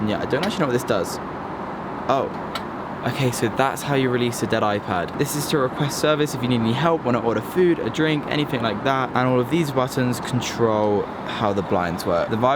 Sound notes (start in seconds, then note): 2.4 button clicks